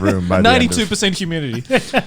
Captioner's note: laughing